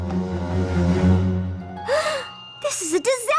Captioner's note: gasp